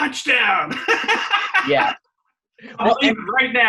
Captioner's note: laughing